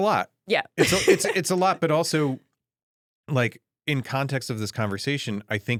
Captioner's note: laughs